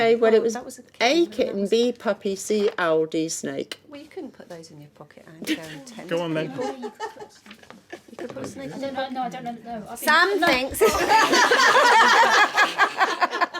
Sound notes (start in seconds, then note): 10.8 laughing